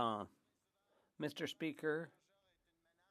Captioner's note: speaking French